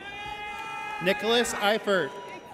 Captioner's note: audience cheers